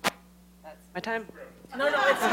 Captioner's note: microphone cuts off; laughter